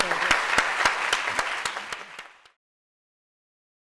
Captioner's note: applause